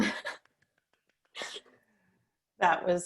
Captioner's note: laughing